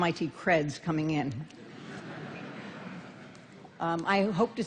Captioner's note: laughter